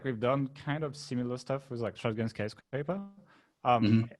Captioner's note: murmurs